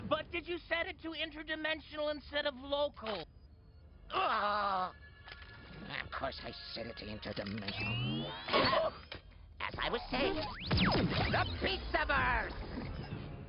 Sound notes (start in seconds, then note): 4.1 annoyed groan; 8.5 yelps